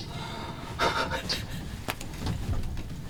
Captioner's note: chuckles